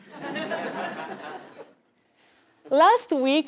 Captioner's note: laugh